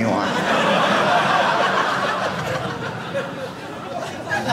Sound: audience laughing

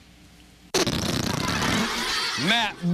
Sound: farting noise

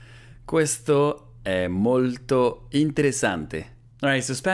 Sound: repeats the sentence in Italian

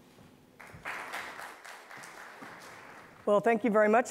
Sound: attendees applauding

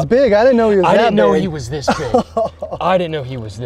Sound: chuckles

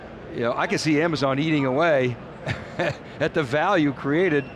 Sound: laughs

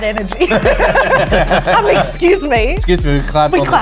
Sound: laughter

